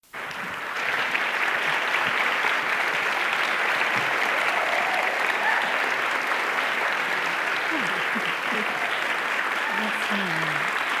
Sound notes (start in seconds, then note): 0.2 audience applauding; 7.6 women muttering